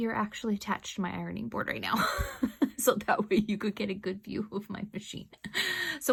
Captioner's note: big long laugh